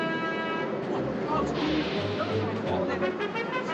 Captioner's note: talking excitedly